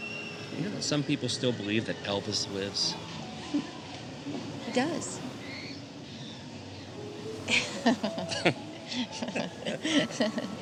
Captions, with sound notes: You know that some people still believe that Elvis lives? He does. [LAUGHS] [CHUCKLING]